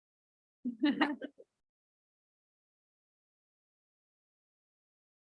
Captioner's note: attendees chuckling